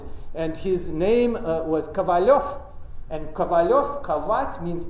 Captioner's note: russian